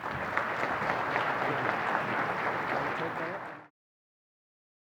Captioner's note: audience applauding